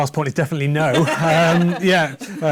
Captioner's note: laughter